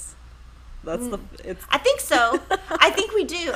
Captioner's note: laughs